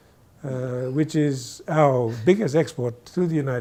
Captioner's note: guy quietly laughs